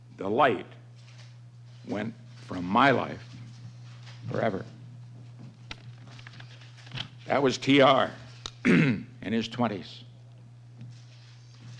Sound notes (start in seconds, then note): 5.8 paper rustling; 8.6 clearing throat